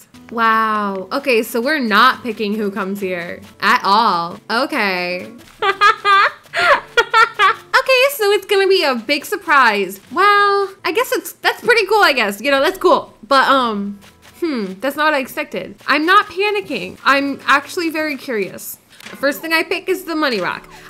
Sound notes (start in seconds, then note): 5.4 laughing